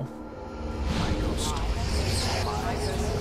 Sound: dramatic music playing; collective voices

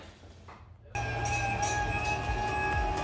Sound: crane reversing; upbeat music

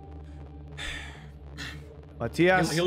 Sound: sighs

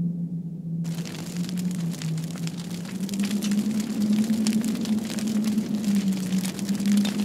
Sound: fire crackling; wind howling

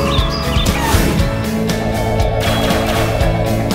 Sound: seagulls squawk; whooshing

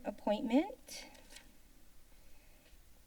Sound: paper rustling sound; silence

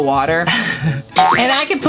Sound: laughing

